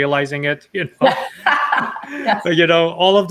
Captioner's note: laughs